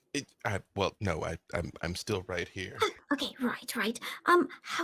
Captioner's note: none